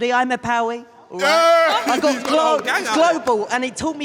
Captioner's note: claps